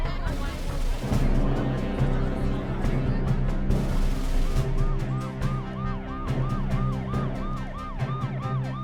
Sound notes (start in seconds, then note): 5.1 police siren blaring